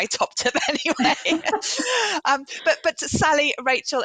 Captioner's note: laughs